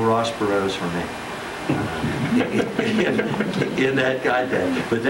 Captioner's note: laughter